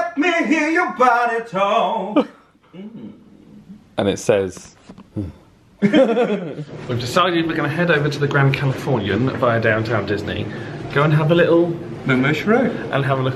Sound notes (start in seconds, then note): 5.1 sighs; 5.8 pair laughs